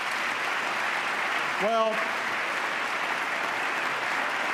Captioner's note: applause